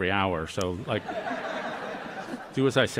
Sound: laughter

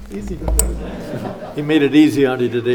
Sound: laughing

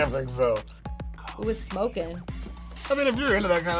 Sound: whispers

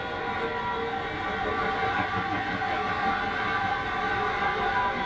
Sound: loud Train

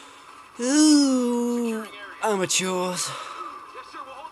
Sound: sighs

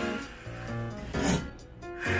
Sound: shiiiiiink

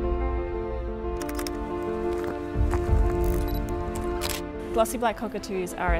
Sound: camera clicks and beeps

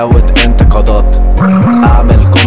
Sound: brr-brrr

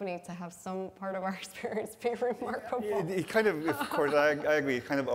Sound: laughs

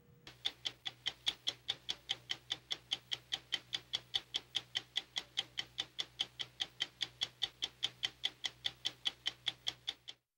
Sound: stopwatch ticking

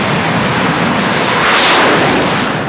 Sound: whoosh sound

